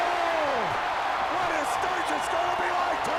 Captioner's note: Bobby exclaims